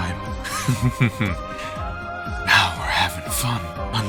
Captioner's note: chuckle